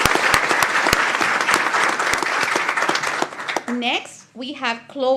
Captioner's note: applause